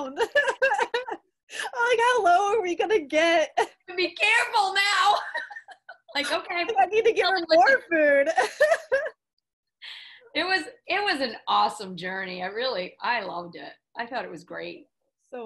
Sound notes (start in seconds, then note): 0.1 both laughing; 5.2 both laughing; 8.2 laughs